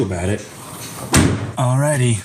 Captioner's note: trunk slams